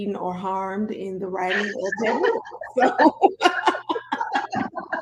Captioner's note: laughing